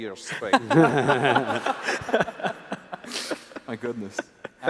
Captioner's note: laughs